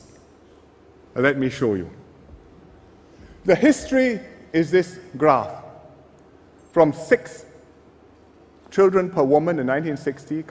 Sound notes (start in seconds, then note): none